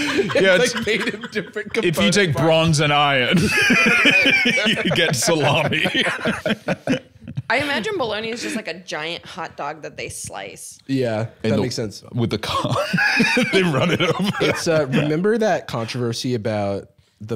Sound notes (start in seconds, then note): 0.0 all laughing; 3.2 both laughing